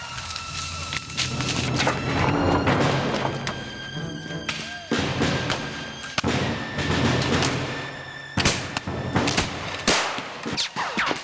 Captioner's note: gunfire